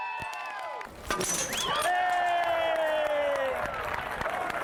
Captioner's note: group cheering